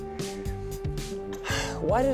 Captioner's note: exhales